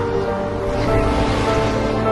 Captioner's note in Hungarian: Süvítő szél